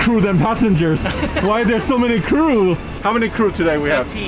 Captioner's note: crew laughing